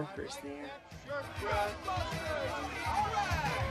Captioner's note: crowd cheering